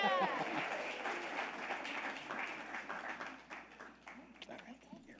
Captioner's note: audience applauding